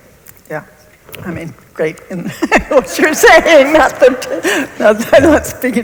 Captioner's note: laughs